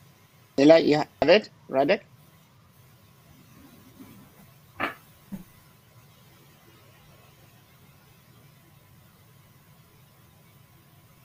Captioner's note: silence